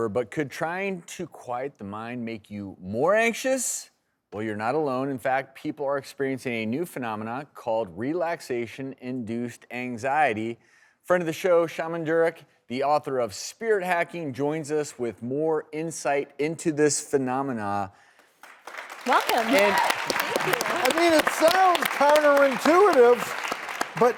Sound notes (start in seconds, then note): 18.2 applause